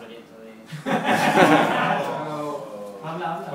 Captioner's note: laugh